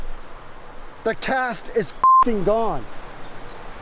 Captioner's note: beep